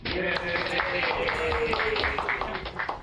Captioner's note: cheering